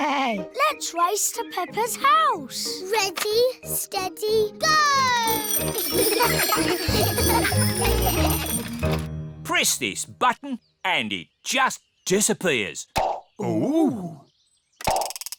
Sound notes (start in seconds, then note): 5.8 all giggle; 6.2 bells ring